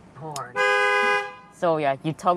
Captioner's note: honk